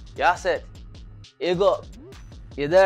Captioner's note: foreign language